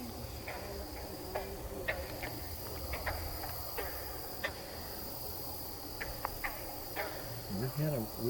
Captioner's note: katydids forest sounds